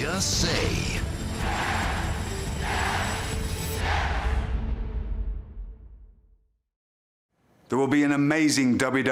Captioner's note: crowd cheering